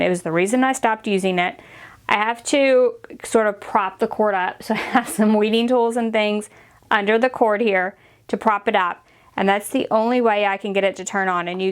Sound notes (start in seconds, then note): 4.7 chuckling